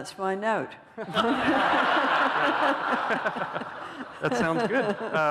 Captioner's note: laughter